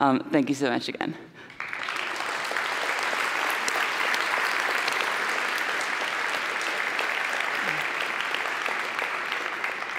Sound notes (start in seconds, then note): 2.2 applause